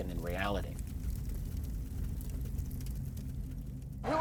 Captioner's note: fire crackling